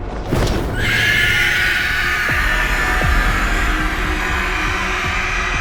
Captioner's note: creature screeching